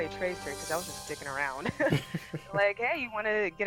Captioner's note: laughs